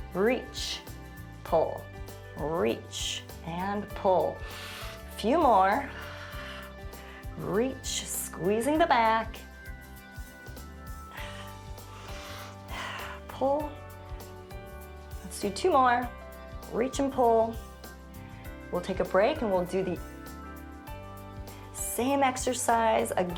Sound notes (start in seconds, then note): 5.8 exhales; 5.8 inhales; 10.1 soft music